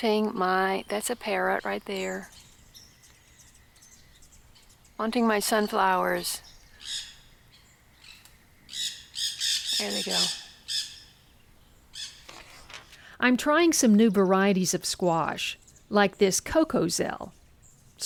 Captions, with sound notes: wanting my,...that's a parrot right there... wanting my sunflowers. There they go. (parrots shrieking) I'm trying some new varieties of squash, like this Cocozelle,